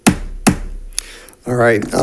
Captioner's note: gavel bangs